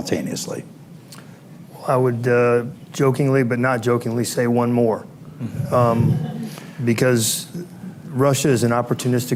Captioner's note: laughter